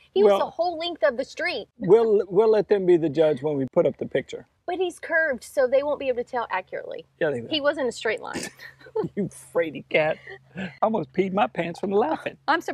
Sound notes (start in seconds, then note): 8.8 laughing